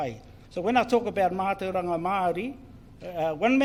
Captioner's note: foreign Language